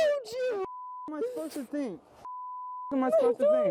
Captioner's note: beep; beep